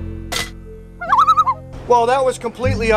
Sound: loon calls

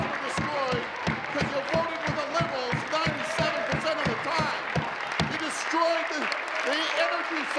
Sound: applause

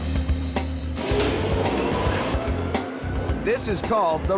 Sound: machine humming

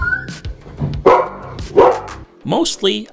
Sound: dog barking

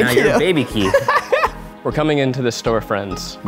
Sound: laughs

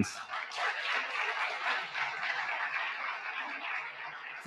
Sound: audience clapping

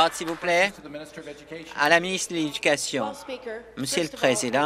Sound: applause

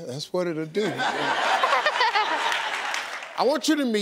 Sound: audience laughing

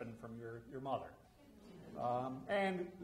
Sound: audience laughs

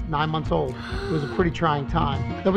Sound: gasping

